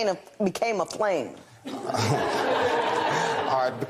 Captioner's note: laughter